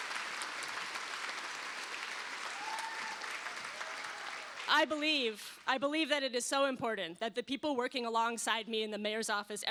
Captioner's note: cheers and applause